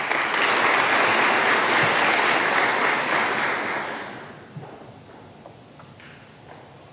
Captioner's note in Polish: oklaski